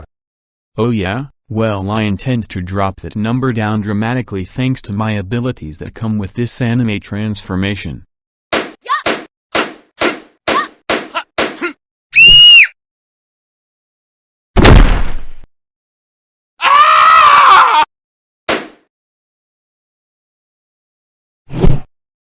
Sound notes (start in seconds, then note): 8.3 Not-Lola Loud, Not-Mario and Not-Luigi grunting; 12.1 Not-Lola Loud screaming; 16.6 Not-Mario screaming